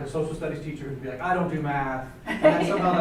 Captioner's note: laughs